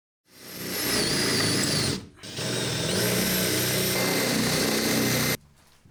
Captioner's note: drilling